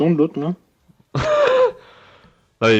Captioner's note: small laugh